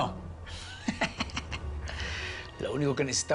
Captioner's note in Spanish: Risas